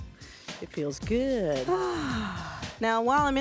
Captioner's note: sighs